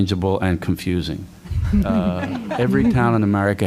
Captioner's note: laughter